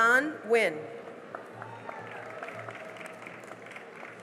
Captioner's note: cheering and applause